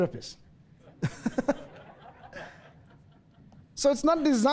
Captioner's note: audience laughs